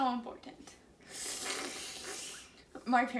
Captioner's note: slurping noise